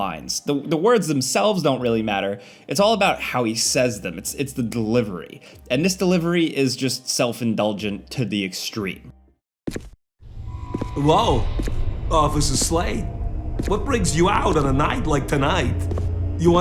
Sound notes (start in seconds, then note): 9.2 footsteps pattering